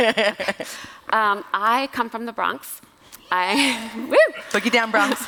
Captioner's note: applause